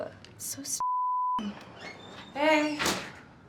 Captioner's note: door creaking